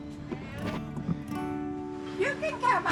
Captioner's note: woman faintly speaking